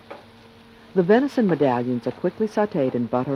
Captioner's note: voiceover